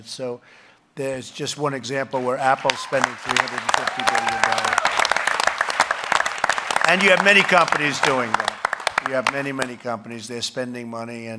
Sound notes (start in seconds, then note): 4.5 applause